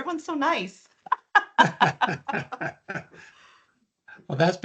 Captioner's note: laughing